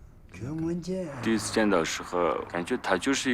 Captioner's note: speaking Tibetan